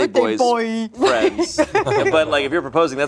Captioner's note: laughs